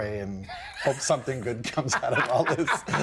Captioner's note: everyone laughing